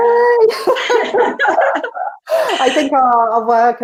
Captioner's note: laughs